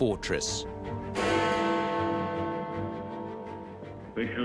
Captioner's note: bell tolls